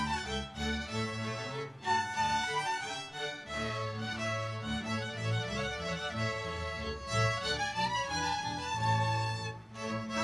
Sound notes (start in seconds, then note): none